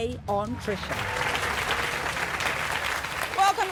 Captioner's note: applause